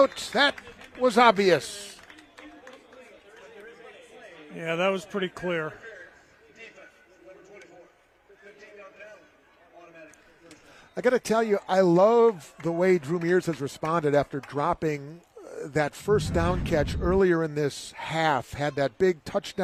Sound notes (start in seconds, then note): 14.7 applause